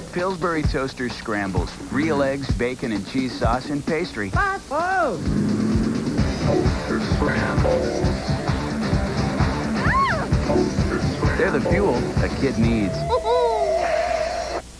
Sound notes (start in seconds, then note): 5.2 bus engine; 9.8 girl cries out; 12.8 Dough Boy giggles